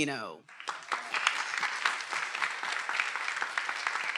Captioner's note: everyone applauding